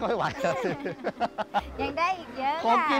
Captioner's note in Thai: เสียงหัวเราะ